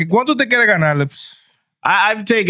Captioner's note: speaking In Foreign Language